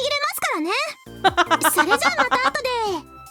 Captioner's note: laughs